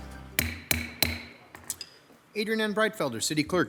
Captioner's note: gavel pounds